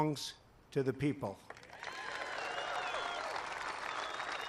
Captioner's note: applause